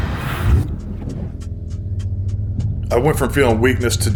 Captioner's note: ticking